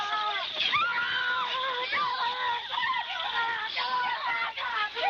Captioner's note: screaming